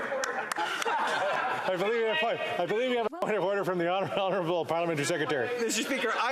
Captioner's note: some Applause